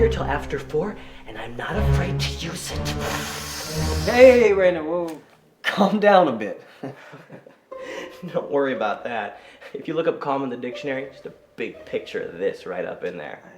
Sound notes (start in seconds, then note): 6.8 chuckling